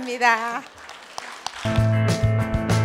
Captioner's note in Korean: 청중 박수